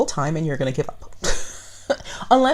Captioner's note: laughs